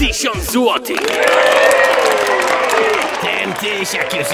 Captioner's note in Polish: oklaski